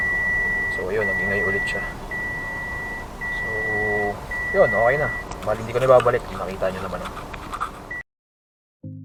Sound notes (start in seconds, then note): 0.0 alarm beeping